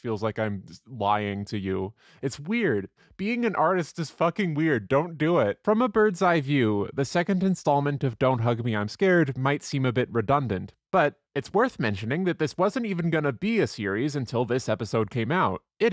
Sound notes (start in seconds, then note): none